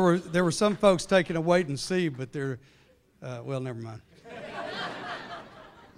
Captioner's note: laughter